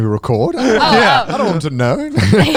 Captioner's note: all laughing